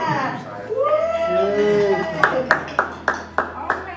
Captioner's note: group cheering